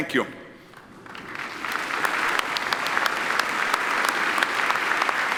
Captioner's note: audience applauding